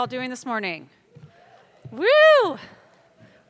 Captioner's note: attendees clamoring